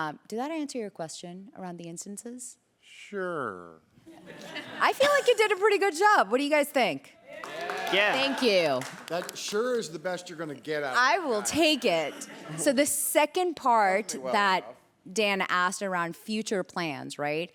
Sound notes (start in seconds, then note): 7.3 applause